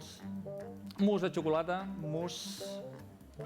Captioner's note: non-english speech